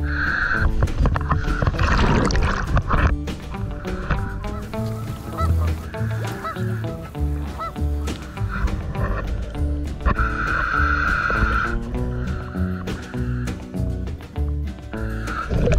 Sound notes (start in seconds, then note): 0.0 heavy breathing through mask; 0.9 water splashing; 4.7 upbeat banjo music continues; 9.9 continuous heavy breathing through mask